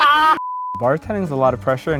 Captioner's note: everyone laughing; beep